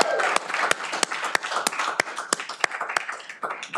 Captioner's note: cheering